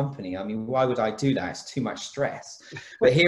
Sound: laughs

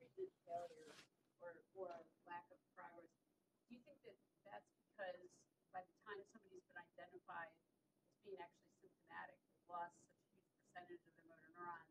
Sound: off microphone

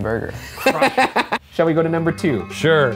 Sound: laughing

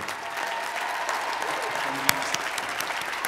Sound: applause

